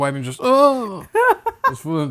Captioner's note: laughing